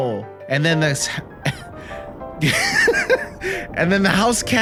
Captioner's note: laughter